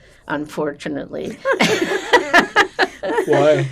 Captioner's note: laughing